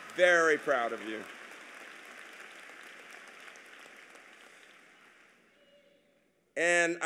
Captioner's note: applause